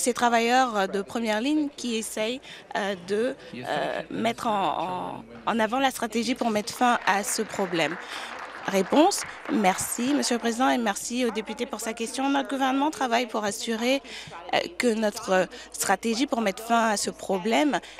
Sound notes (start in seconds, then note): 10.1 applause